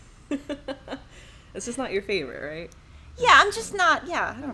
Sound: laughs

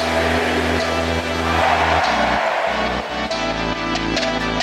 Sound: crowd

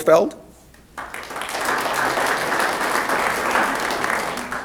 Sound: applause

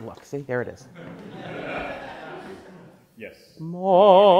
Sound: class laughs

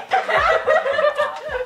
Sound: laughter

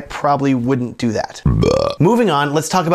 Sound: burps

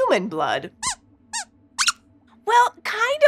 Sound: squeaks squeaks

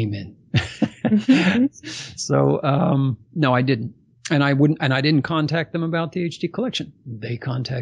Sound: laughs

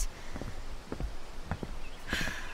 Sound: deep breath

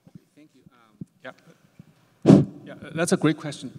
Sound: blows

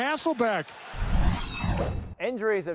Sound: metal swooshing

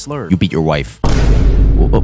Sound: gunshot

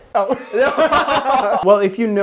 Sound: laughter

